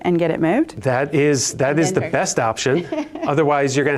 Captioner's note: laughs